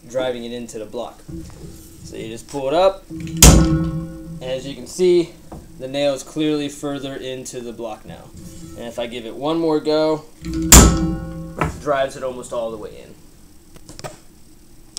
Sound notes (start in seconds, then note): 3.4 clang; 10.4 clang